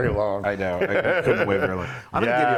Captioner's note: laugh